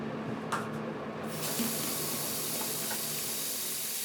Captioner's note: water running